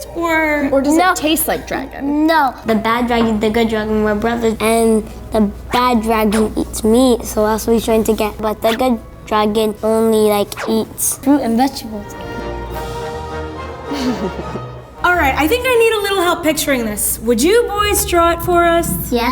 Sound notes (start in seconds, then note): 12.0 triumphant trumpet music; 13.9 giggles